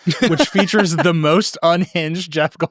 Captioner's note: laughing